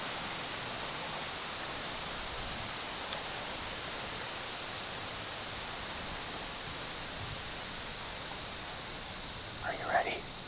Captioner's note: wind